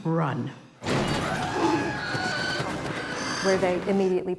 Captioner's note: birds shrieking; animal growls